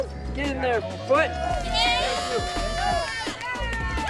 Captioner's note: cheering